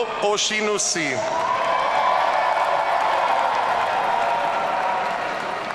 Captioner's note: audience cheering